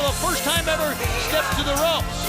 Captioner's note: crowd cheering